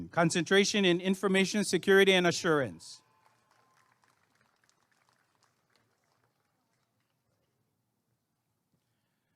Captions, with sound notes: Concentration in Information Security and Assurance [applause and cheering]